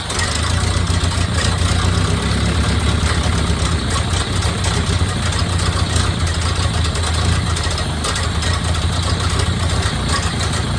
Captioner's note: engine idling smoother